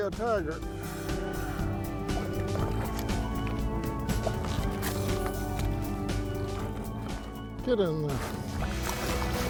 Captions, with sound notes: He might be a tiger. (soft music) (water splashes) Get in there.